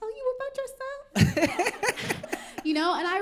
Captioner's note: laughter